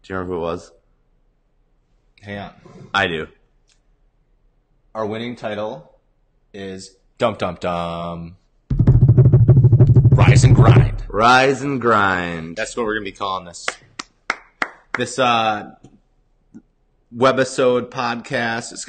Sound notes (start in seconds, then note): 13.6 clapping